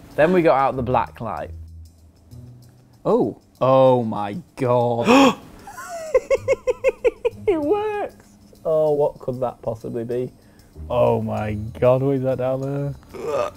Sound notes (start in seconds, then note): 5.0 gasp; 5.6 laughter